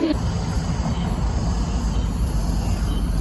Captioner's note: cicadas